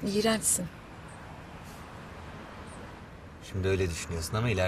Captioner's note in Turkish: Kuş cıvıltısı sesi